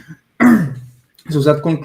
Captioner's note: man clears throat